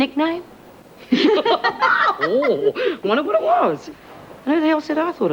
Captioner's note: laughs